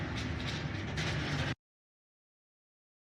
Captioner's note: clattering; abrupt audio cut